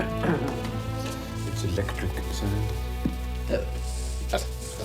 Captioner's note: whispering